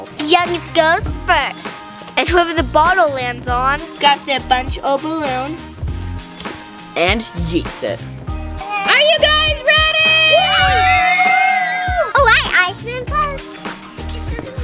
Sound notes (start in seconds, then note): 9.7 cheering